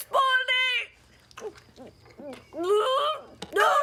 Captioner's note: sobbing